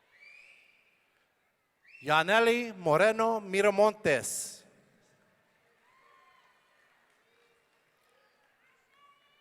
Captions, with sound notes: Jannely Moreno-Miramontes. (audience cheering)